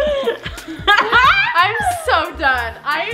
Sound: laughs

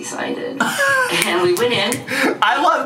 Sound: laughs

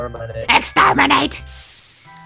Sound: In Dalek’s voice

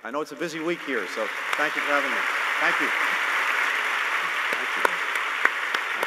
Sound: applause

